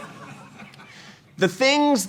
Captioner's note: laughter